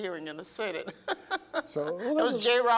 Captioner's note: laughs